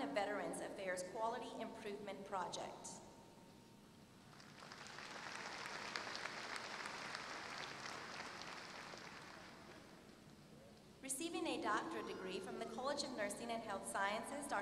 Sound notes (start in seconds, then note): 4.3 applause